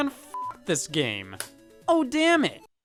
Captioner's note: beep; case clacking